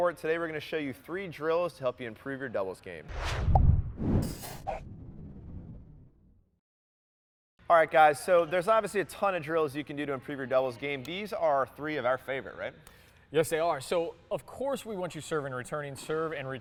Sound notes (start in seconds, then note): 3.1 air swooshes